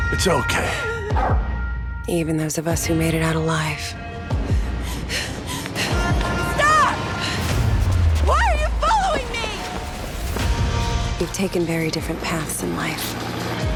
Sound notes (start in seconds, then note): 4.2 woman breathing heavily; 7.4 yelling